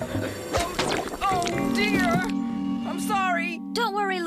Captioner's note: thump!